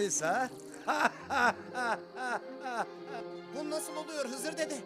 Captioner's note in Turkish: Gülme sesi